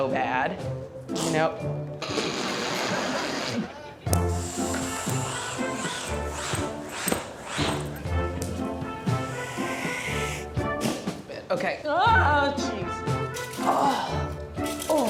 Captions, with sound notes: This isn't so bad. -No... -[squirting] [snickers] [air escaping] [air gushing] OK. Oh, Jeez.